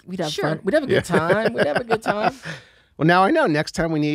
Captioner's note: laughs